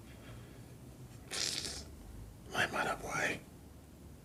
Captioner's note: sucks teeth